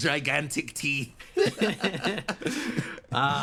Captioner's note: laughs